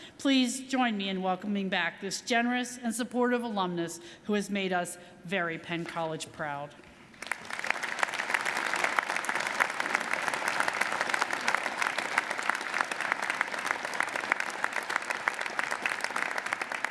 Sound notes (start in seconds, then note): 7.1 audience applauding